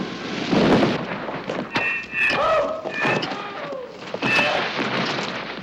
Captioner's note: thudding; groaning